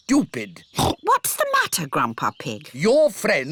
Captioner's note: oinks